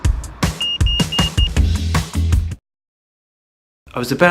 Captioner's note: upbeat music; beeping